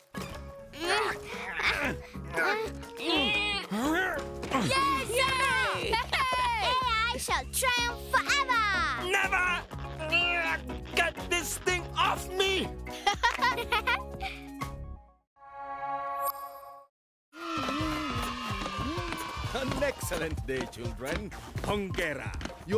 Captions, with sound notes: (both groaning) - Yay, Sema! (cheering) - AI shall triumph forever! - Never! (groaning) Get this thing off me! (giggling) (children playing) - An excellent day, children. Hongera.